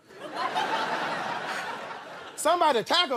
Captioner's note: laughter